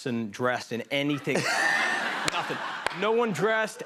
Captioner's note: laughter